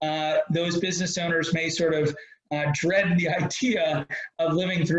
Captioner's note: laughs